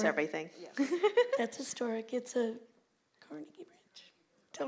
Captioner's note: laughs